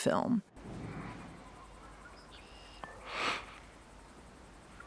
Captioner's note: birds chirp